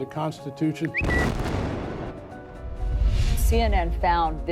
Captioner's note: bird tweeting; bomb exploding